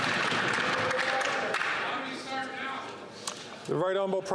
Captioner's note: applause